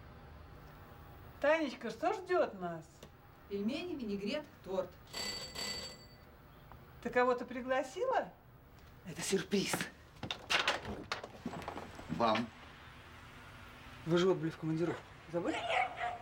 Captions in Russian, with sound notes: Танечка, что ждёт нас? Пельмени, винегрет, торт. [Звонок в дверь] Ты кого-то пригласила? Это сюрприз! Вам! Вы же отбыли в командировку. Забыли?